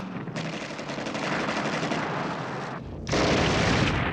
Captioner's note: guns blasting